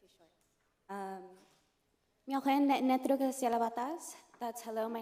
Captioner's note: non-english speech